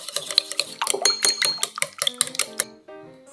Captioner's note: the sound of beating eggs